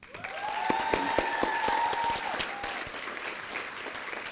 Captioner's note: applause and cheering